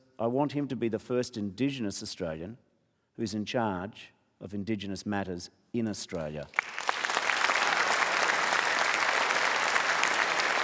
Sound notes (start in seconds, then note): 6.5 applause